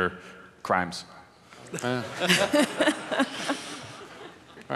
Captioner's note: laughing